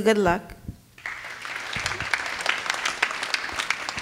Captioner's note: clapping